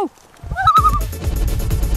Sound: loon call

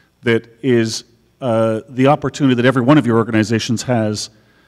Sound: none

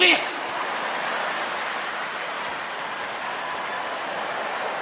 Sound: audience laughing

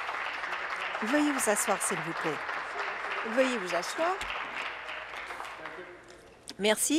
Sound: applause

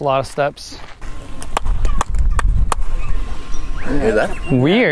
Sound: clapping and bird-like echo

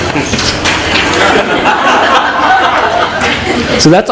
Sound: laughter

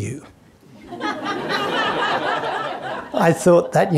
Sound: audience laughing

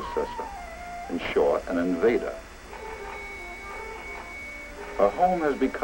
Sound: doorbell rings

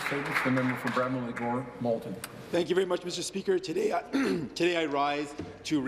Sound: some Applause

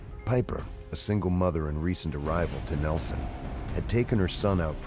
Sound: voiceover

